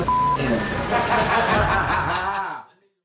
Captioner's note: inmate laughing